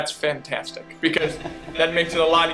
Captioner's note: laughter